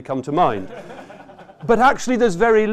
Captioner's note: laughter